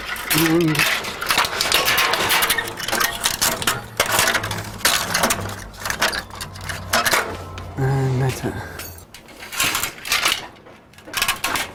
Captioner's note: sound of metal cable wires being pulled and tightened